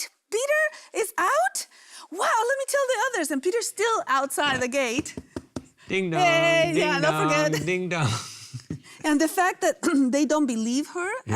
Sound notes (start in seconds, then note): 4.9 knocking; 8.1 laughing